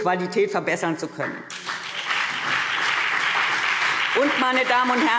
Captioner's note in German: Beifall CDU und BÜNDNIS 90/DIE GRÜNEN